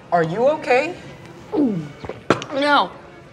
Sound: gulps

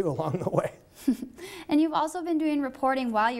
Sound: chuckles

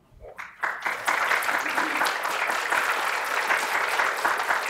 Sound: audience clapping

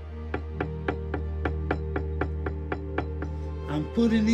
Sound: hammer tapping

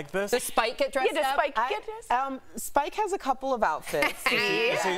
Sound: laughter

